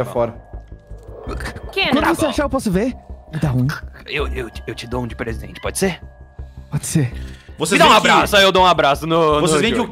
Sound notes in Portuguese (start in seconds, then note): 3.3 sussurrando